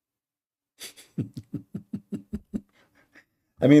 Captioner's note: Ketawa